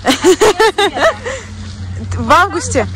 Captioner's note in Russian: Смех